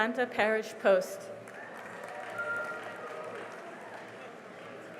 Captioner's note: cheering and applause